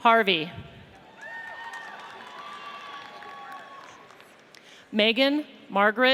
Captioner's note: audience cheers